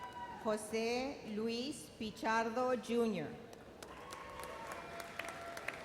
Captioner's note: audience applauds